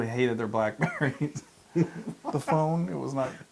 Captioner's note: laugh